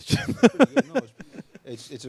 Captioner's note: laughs